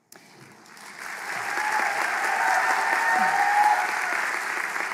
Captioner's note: applause